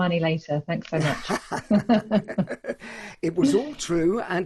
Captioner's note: both laugh loudly